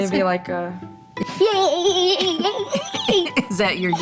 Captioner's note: child cheering